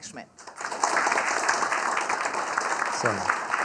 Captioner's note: student audience applauding